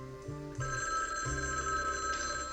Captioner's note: phone ringing